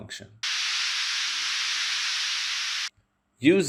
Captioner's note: masking sound playing